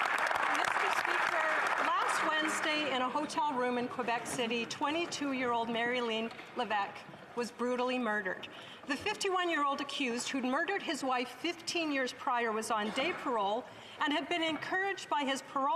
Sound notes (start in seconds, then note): 1.9 some Applause